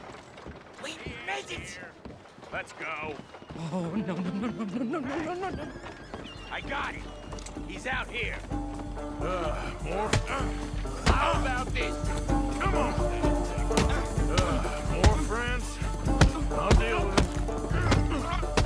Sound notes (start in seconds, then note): 14.9 sighs